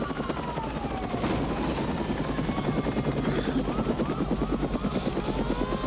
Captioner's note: sirens blaring